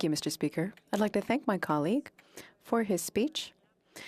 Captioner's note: speaking French